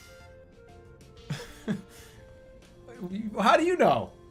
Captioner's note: giggles